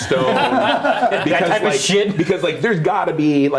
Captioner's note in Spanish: risas